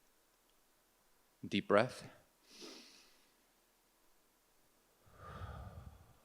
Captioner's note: inhales and exhales